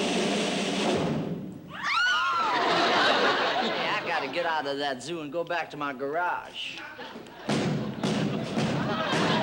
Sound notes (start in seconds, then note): 1.7 all shriek